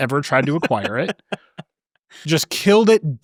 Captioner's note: laughing